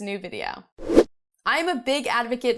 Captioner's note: air whooshing